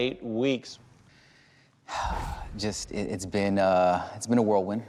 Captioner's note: sighs